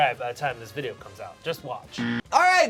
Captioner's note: loud buzzing